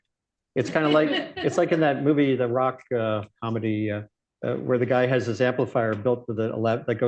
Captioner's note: laughter